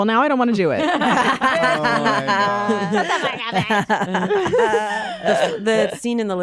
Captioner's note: laughter